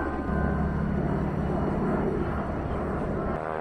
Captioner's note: engine rumbling